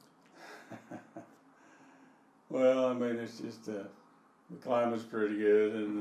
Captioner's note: chuckling